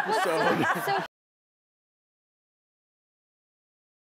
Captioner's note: laughing